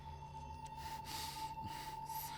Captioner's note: gasps